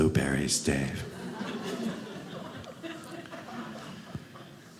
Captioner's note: audience laughing